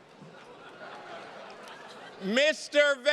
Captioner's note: attendees laughing